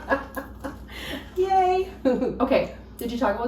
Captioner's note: laughs